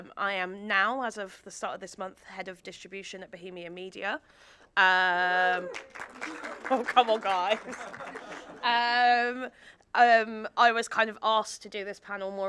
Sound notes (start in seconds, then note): 5.6 audience members cheering; 5.6 audience applauding; 8.2 audience laughing